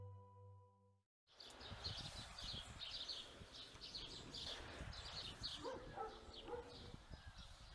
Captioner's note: birds chirping